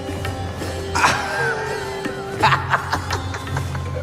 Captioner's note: laughs